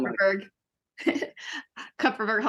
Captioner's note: chuckling